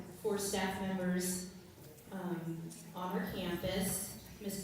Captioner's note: none